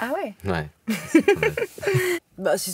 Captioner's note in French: Rires